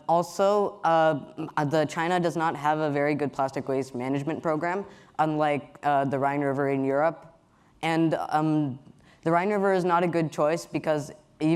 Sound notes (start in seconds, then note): none